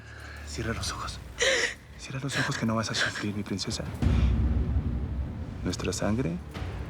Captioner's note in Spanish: Sollozos